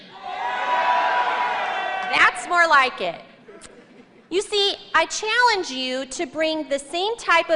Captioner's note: louder cheers and applause